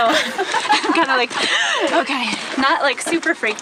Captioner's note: laughs heartily